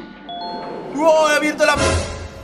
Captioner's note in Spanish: Sorprendido